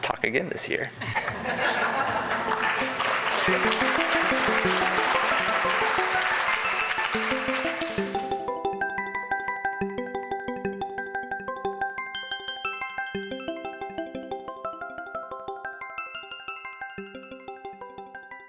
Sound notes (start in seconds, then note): 1.1 crowd applause; 2.5 crowd laughs; 2.6 upbeat bell music